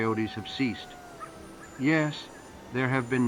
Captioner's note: dogs howling